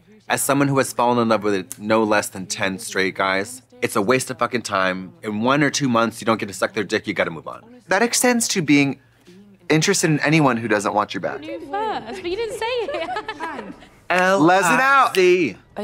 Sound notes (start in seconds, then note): 11.4 laughing